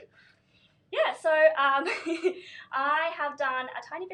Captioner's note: laughs